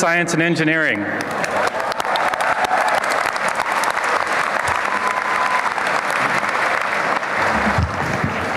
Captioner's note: applause